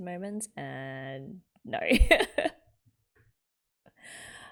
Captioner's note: laughs